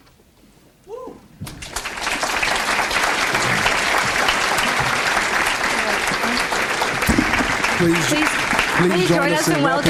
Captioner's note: audience applauds